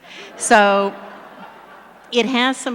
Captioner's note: laughter